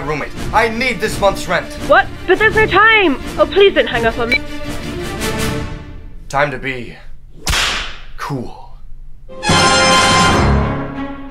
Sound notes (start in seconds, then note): 7.4 whip crack